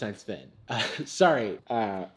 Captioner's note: chuckles